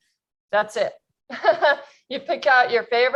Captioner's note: chuckles